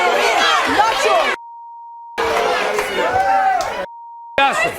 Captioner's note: audience yelling